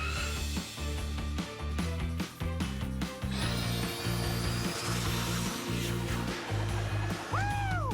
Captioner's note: screech